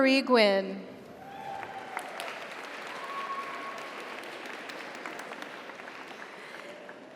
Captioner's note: audience cheers; audience applauds